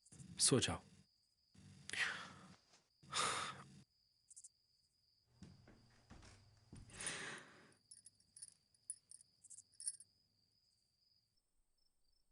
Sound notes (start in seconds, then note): 3.0 sighing; 5.3 night crickets chirping